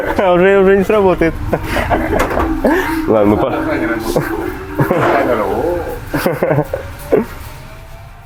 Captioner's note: laughing